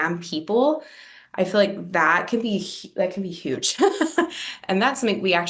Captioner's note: laughs